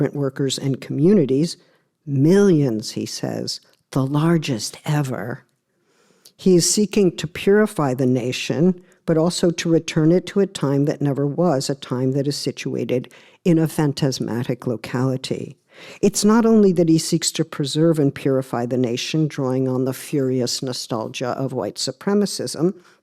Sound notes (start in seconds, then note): none